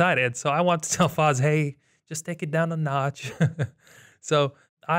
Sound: laughs

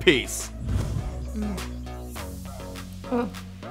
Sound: mmm

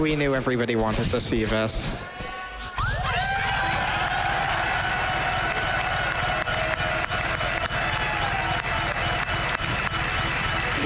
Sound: crowd cheering

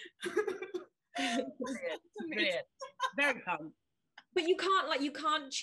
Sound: group laughing

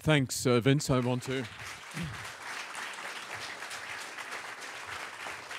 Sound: audience applauds

